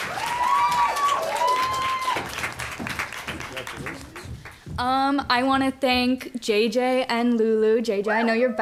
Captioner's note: applause